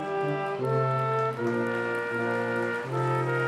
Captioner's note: applause